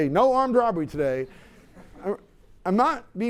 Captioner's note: laughter